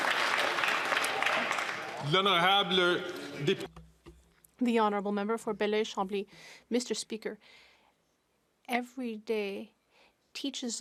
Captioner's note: some Applause